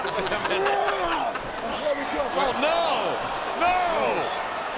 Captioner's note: laugh